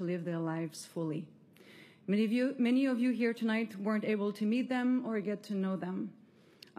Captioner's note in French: voix de l'interprète